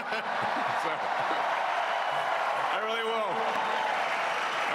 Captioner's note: crowd chanting